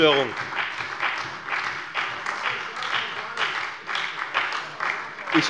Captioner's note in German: Beifall bei der FDP und der SPD